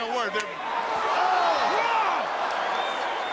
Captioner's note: crowd cheering